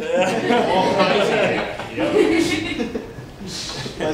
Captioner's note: laughter